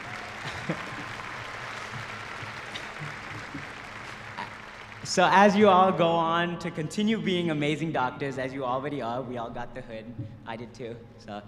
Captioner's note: cheers and applause